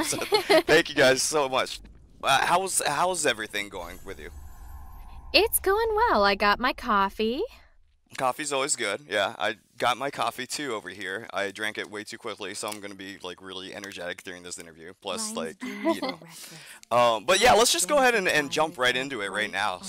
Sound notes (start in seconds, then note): 15.6 light laughter